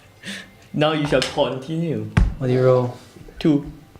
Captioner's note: thumps table